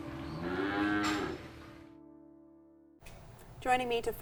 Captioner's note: cow moos